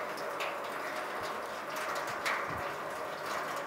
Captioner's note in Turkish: Tankere dolan su sesi